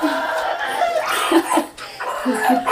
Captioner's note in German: Babyschreien